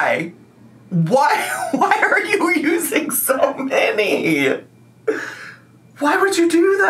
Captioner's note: laughs